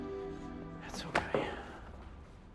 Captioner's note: Tommy sighs